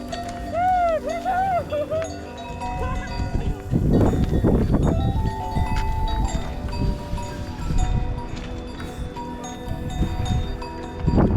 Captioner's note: cow bells; babbling